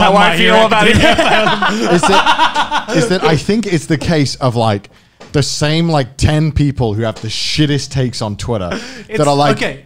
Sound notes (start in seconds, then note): 0.0 men laughing